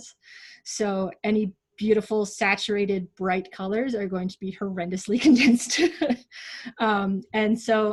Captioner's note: laughs